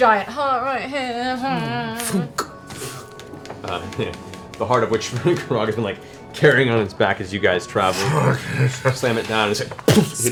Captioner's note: impact sound